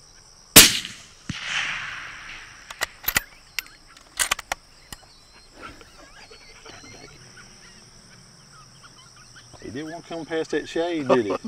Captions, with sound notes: (gun firing) (gun coking) (birds chirping) - It didn't want to come past that shade, did it?